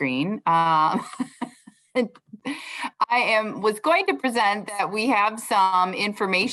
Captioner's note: laughter